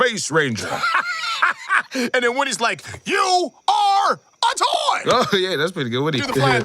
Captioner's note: laughs